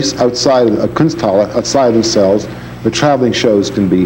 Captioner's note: speaks in foreign language